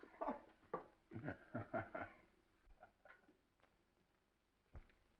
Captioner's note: dark haired director laughs